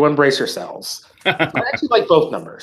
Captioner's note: laughter